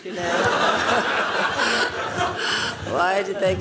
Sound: laughing

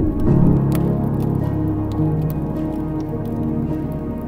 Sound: fire crackling

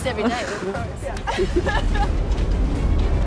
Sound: laughing

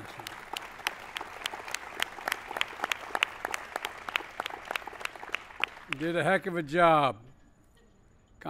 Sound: applause

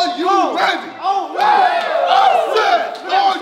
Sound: group cheering

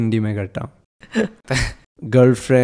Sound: laughs

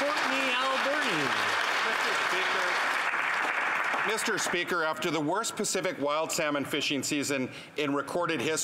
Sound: some Applause

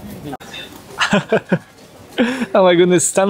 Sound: laughs

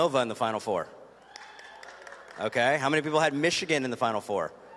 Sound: cheers and applause

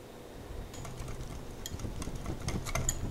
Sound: whisking sound continues

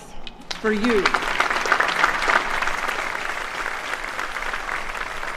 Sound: applause

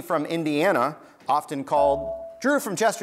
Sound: buzzer beeps

